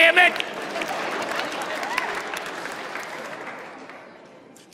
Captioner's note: audience applauding